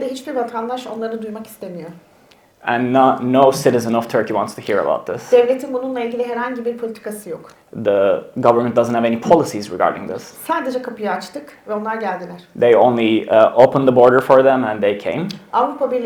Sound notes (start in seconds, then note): 0.2 speaks in Turkish; 5.5 speaks in Turkish; 10.8 speaks in Turkish; 15.8 speaks in Turkish